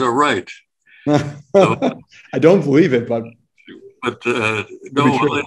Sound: laughs

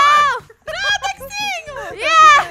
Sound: laughing background

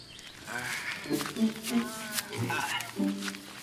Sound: men grunting

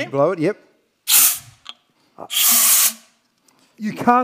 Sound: gas whistling

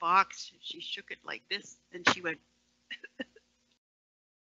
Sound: coughs

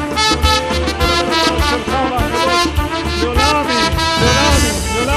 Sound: praising in Hebrew

